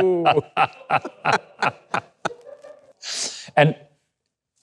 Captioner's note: laughing